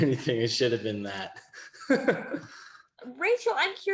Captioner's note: laughs